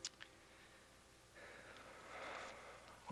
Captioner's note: sighs